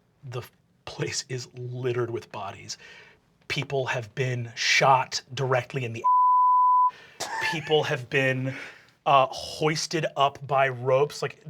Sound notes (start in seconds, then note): 6.0 beep